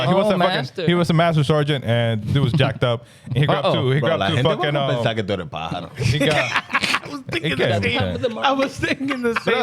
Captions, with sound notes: He was a master sergeant and he was jacked up. He grabbed two fucking. (Speaking In Foreign Language) (Laughing) I was thinking the same.